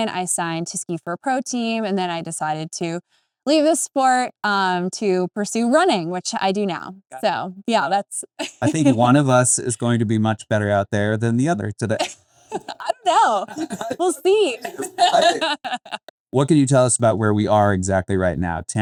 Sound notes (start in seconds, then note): 15.4 laughing